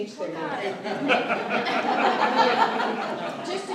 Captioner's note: laughter